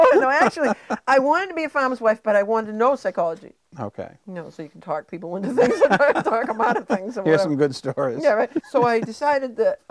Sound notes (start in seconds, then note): 5.5 chuckling